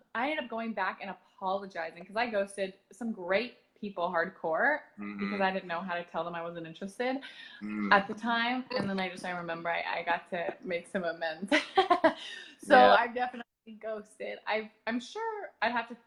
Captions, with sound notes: I ended up going back and apologizing because I ghosted some great people hardcore because I didn't know how to tell them I wasn't interested at the time, and then I just remember I got to make some amends. [laughs] I definitely ghosted.